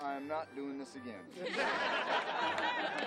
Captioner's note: crowd laughs